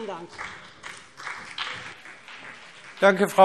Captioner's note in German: Beifall BÜNDNIS 90/DIE GRÜNEN und CDU